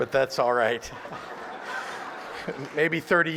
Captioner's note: laughter